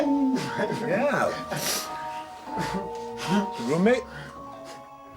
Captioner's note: chuckles